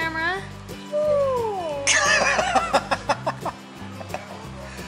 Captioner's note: laughter